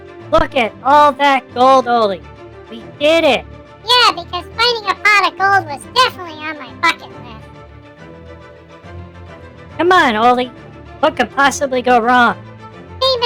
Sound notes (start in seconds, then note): 4.4 sarcastically; 10.1 excitedly